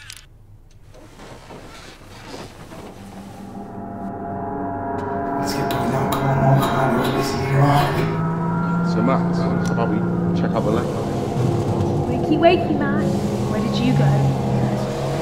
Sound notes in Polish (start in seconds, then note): 6.6 urywki rozmów